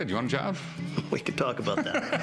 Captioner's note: laughs